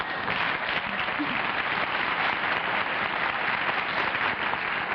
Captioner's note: laughter; applause